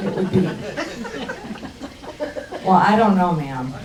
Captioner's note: crowd laughs